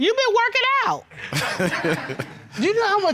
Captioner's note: laughs